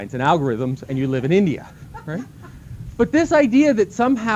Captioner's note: laughter